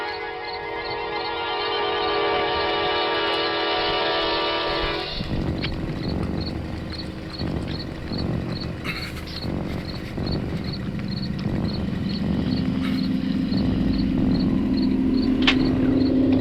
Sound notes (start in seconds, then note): 0.1 crickets chirping; 0.1 suspenseful music continues; 10.1 crickets chirping; 10.1 suspenseful music continues